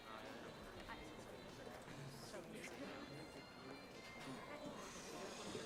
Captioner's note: people chattering indistinctly